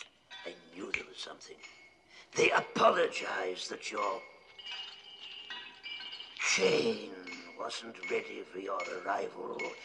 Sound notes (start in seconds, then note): 4.5 clanking nearby